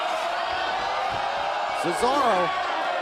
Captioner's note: crowd cheering